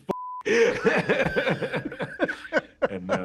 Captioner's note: laughter